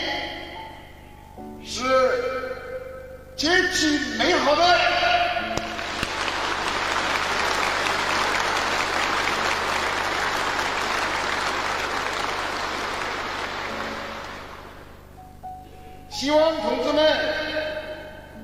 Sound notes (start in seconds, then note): 5.6 applause